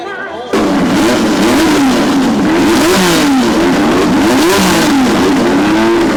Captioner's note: engine roars